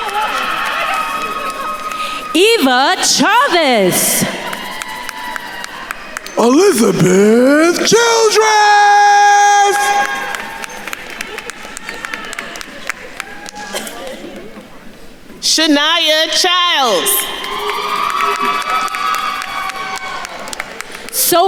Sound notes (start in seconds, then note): 0.1 attendees cheering; 4.7 attendees cheering and applauding; 10.0 attendees applauding; 13.7 group chattering; 16.9 attendees cheering and applauding